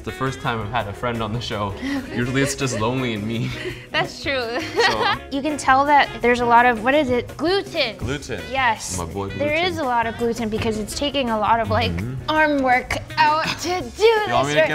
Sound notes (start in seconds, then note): 4.8 laughs